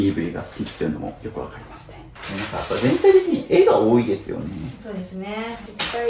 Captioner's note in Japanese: 笑い